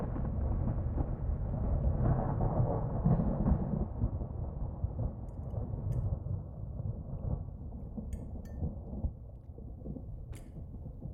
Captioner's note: thunder cracks violently